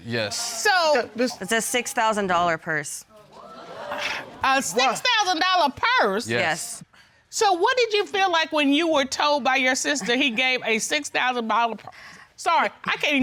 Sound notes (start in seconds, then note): 3.6 audience exclaims